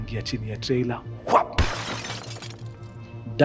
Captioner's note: crashing